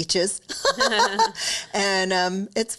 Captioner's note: laughing